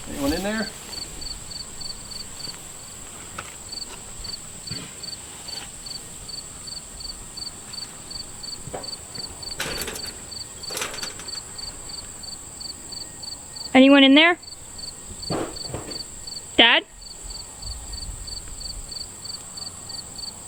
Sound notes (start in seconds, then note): 8.4 clattering noises; 14.6 metallic rustling noise